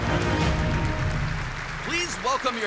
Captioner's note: applause